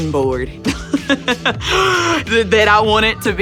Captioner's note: laughter